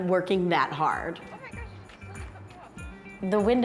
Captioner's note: indistinct chatter